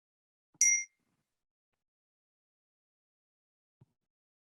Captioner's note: bell dings